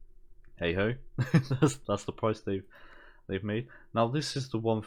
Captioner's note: laugh